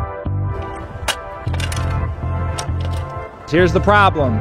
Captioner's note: scraping